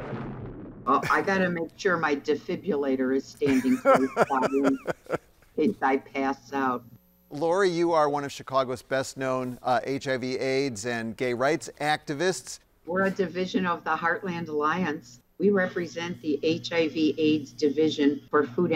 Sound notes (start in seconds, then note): 3.4 laughing